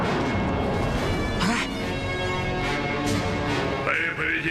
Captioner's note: gasps